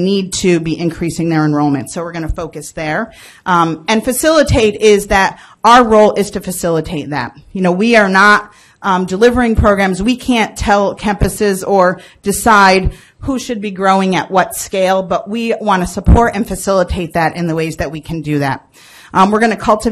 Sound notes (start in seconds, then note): none